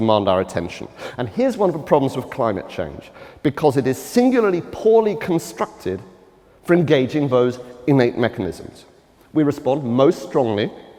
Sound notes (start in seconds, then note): none